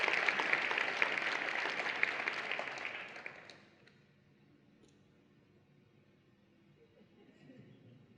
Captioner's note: applause and Cheering